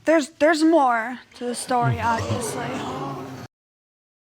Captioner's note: audience gasps